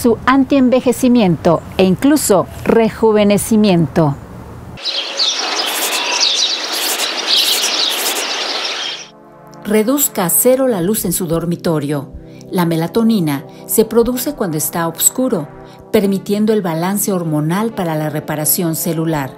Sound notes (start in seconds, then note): 4.8 birdsong